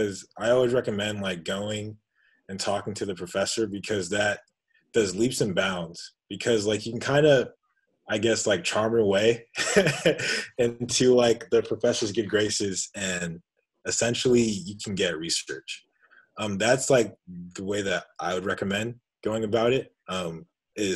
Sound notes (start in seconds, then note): 9.5 laughing